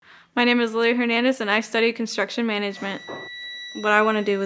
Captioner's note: beeping sound